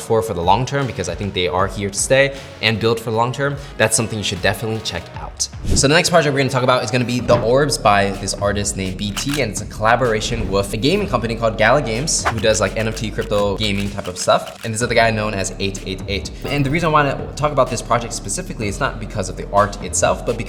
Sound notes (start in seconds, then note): 5.6 frame wooshing; 9.1 camera shutter clicking; 12.2 frame wooshing